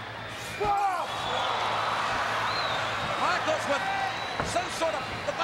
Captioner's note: applause